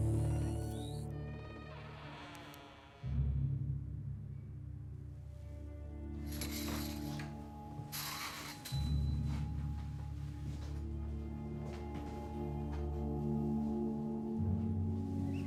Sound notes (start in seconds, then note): 1.1 door creaking; 3.2 somber music; 6.2 blinds clattering